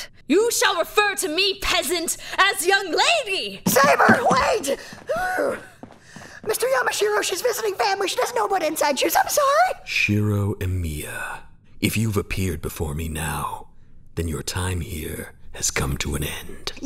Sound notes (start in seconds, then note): 4.7 gasping for air